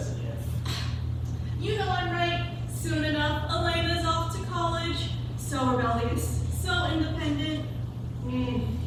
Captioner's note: scoffs